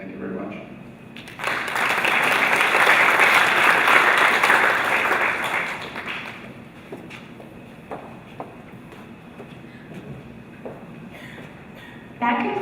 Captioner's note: applause